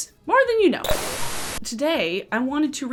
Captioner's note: static roars